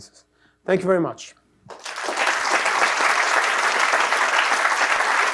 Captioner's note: applause